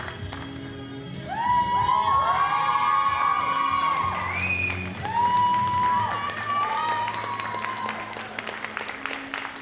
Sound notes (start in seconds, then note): 1.4 audience cheers and applauds